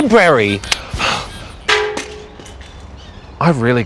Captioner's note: clang!